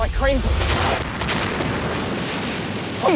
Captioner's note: crashing